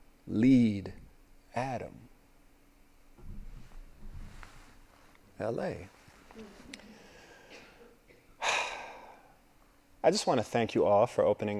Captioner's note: sigh